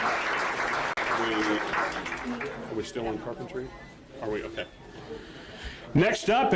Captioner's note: applause